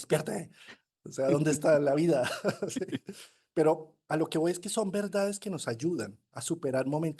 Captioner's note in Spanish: risas